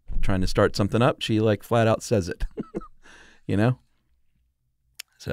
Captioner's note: laughs